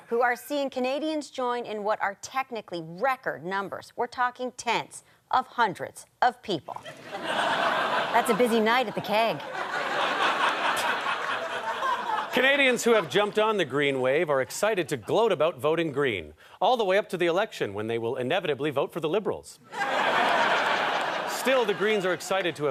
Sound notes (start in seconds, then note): 9.6 chuckles; 11.6 audience laughter; 19.7 audience laughter